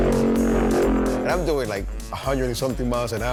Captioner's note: engine revving